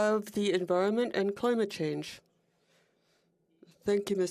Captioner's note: speaking French